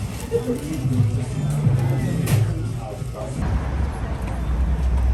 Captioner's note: people chattering